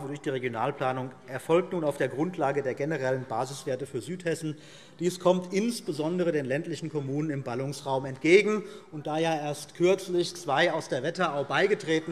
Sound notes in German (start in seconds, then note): none